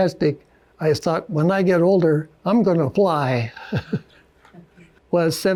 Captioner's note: chuckles